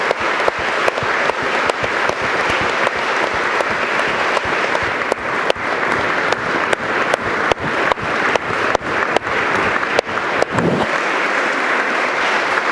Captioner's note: applause